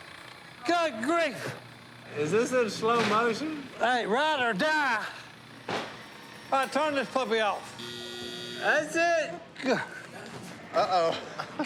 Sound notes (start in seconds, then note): 7.1 buzzer sounds; 9.6 laughter